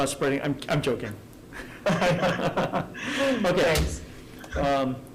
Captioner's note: laughing